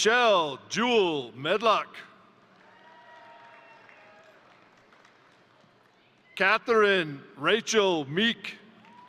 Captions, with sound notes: Rochelle Jewel Medlock, (crowd cheering) (crowd applauding) Katherine Rachael Meek,